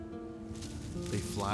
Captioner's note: leaves rustling